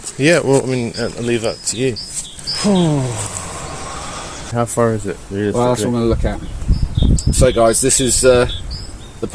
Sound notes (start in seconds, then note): 2.6 sigh